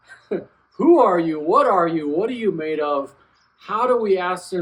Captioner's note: laughs